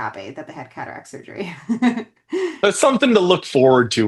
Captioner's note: chuckles